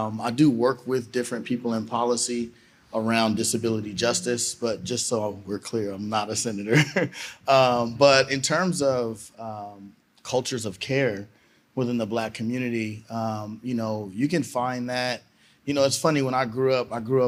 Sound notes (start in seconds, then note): 6.6 laughter